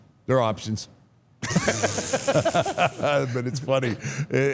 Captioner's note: all laughing